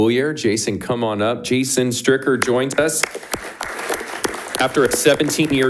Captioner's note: audience applauding